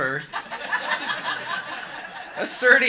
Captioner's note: audience laughing